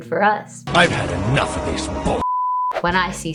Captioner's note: angry Male voice; beep